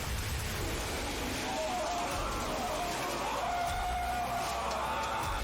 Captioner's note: group groans